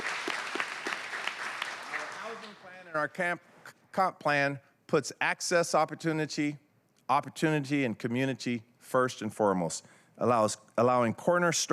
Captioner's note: applause